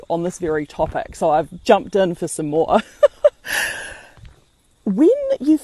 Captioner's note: laughs